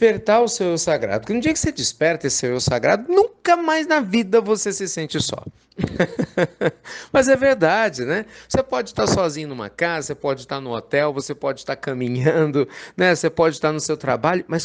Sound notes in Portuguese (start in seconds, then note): 5.8 Risos